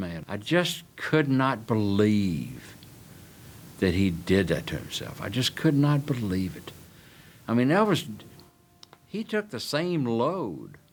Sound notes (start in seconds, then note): none